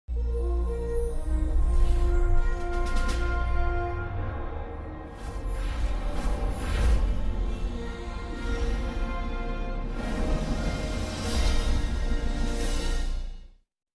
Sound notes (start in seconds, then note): 0.0 dramatic orchestral fanfare plays; 5.1 digital whooshing sounds; 8.0 fanfare continues; 11.0 fanfare ends